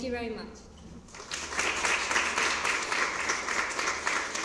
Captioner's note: applause